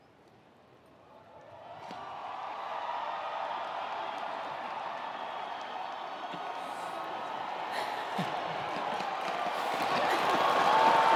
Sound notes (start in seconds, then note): 1.5 attendees cheering; 1.9 attendees applauding